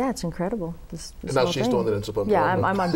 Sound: laughter

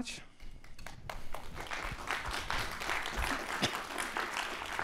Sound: applause

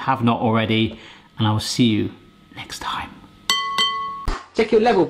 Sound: glass dings

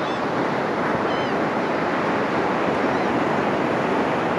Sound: the calls of the laughing Gulls grow softer

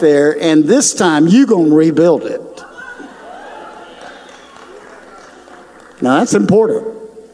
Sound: audience cheers

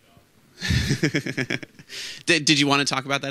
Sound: laughs

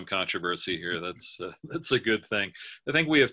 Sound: laughing

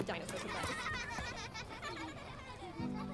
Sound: children laughing

